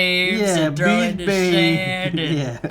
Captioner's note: laughs